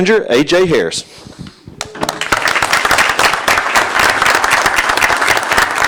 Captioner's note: applause